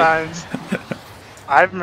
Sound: chuckles

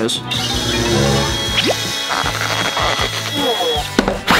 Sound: drill whirring

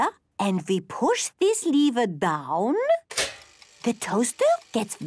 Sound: clicks

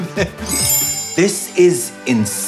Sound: chimes

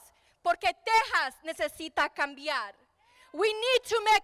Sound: speaking in foreign language

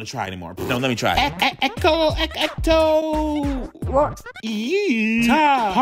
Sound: speaking in foreign language

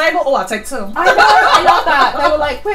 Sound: laughs

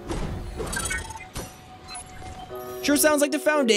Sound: electronic beeping

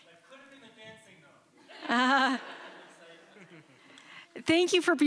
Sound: chuckles

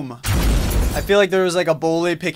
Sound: loud explosion

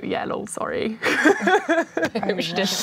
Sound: laughing

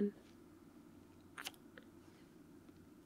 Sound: kiss

